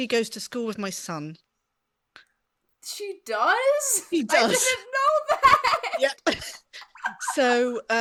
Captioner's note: laughs